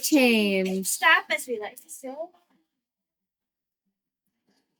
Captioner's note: faintly speaking